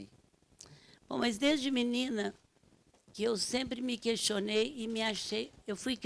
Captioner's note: speaking Portuguese